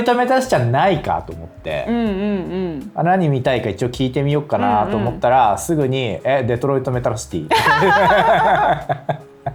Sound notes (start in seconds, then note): 7.5 laughs